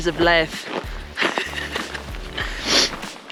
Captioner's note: laughing